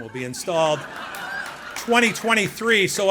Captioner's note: laughing